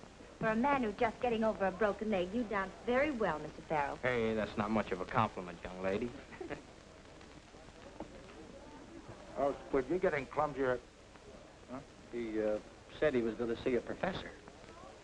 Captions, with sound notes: For a man who's just getting over a broken leg you dance very well, Mr. Farrell. Hey, that's not much of a compliment, young lady. [chuckles] You're getting clumsier-- She said she was gonna see a professor.